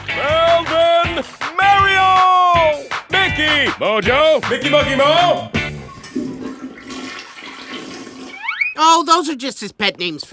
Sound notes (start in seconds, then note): 5.7 toilet flushes